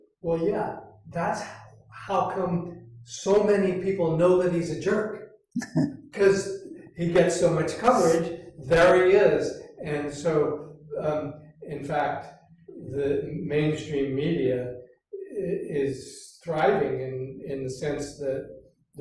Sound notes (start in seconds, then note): 5.6 chuckles